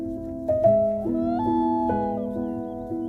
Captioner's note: common loon wailing